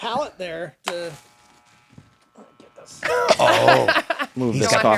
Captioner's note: razor buzzing; laughter